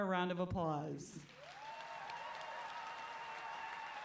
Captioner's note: applause